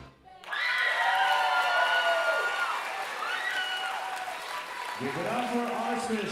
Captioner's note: audience cheering and applauding